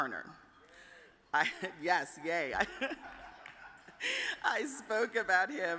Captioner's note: chuckles